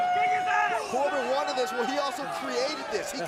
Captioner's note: crowd chatter